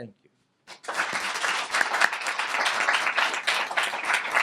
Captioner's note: applause